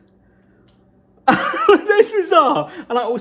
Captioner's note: laughing